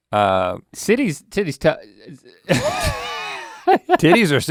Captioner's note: laughing